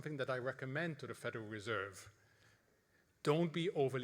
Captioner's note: none